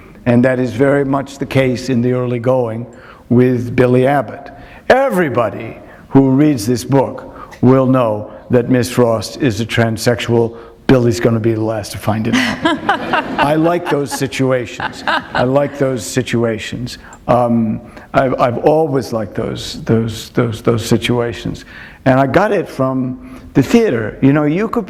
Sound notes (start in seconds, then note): 12.3 laughter